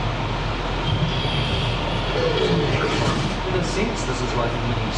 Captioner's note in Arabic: زئير الديناصور